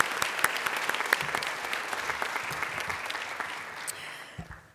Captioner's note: applause